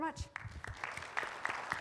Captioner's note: audience applaud